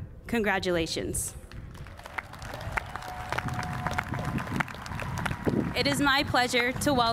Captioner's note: cheers and applause